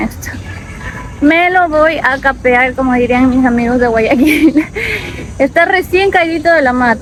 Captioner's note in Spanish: risas